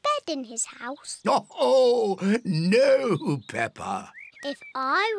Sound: laughs

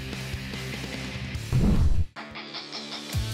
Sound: whoosh

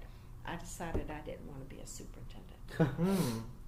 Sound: laughs briefly

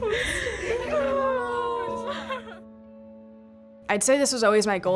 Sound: women crying and laughing

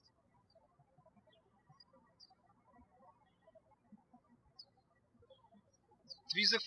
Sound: birds chirping

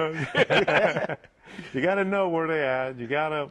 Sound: laughter

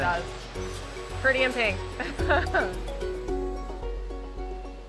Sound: chuckles

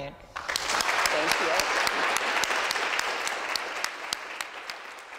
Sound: audience applauds

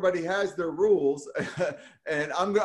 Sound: laughs

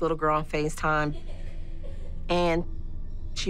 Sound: laughter

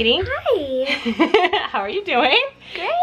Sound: laughs

